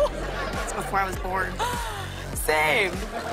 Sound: gasps; laughter

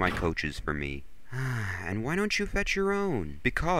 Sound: sigh

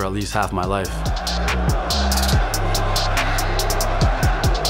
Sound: crowd chanting

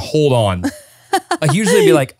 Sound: laughs

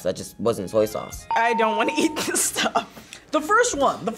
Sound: bell rings

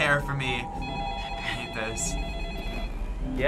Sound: laughs

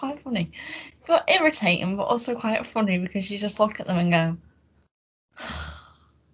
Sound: sigh

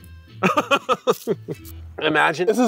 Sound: laughs

